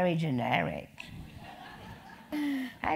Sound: laugh

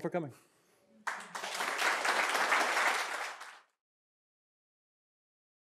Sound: audience applauding

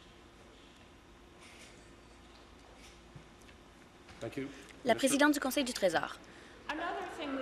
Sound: conversation din

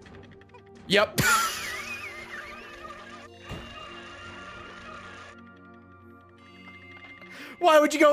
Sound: laughs

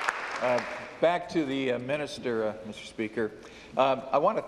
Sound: applause

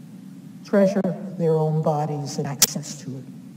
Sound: none

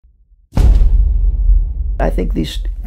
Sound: thud

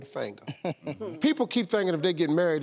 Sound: guest laughs

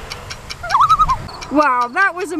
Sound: loon call

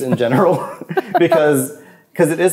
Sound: laughs

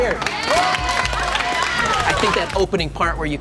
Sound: applause

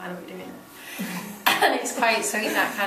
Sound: laughing

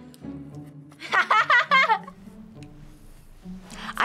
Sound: laughing

